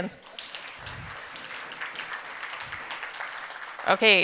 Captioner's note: audience applauding